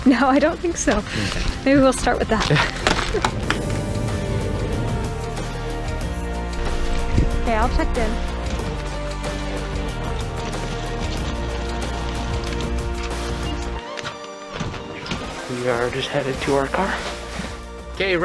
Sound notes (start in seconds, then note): 2.8 latch clicks; 2.8 motor rumbles